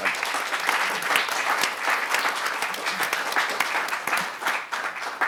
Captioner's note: audience applauding